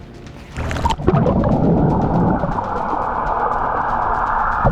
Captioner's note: water gurgling